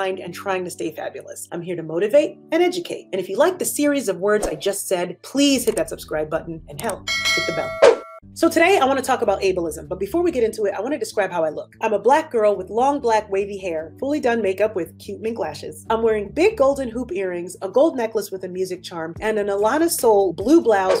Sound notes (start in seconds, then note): 7.0 bell Sound